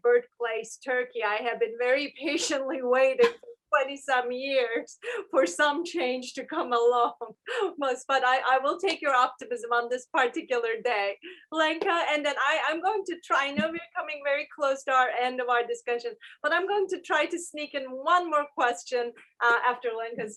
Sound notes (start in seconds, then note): 2.3 laughter